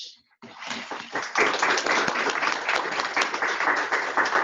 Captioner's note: applause